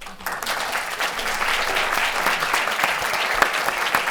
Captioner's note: applause